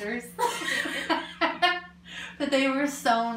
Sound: laughs

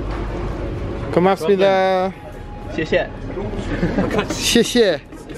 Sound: speaking foreign language

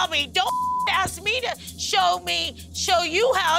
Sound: beeping

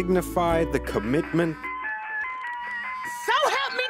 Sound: cell phone ringing

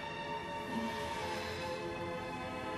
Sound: sad music playing; sighs

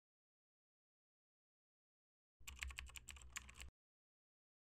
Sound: typing sound

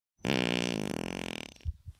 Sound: someone farts

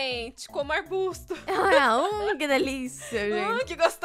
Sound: laughs

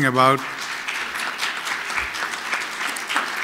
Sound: applause

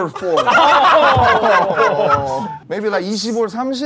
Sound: sound of laughter

